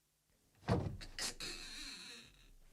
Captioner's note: SFX: door creaks open